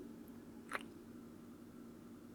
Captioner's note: kiss